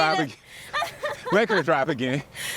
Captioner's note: laughs